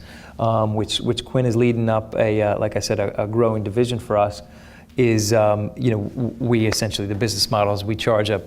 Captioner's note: none